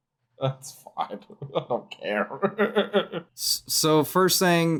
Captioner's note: laughing